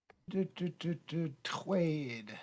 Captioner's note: humming